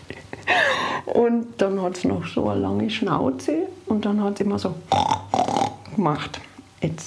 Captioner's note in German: Grunzen